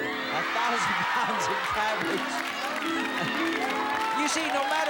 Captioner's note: cheers and applause